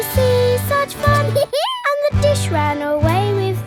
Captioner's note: dog laughs